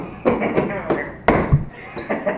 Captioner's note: slap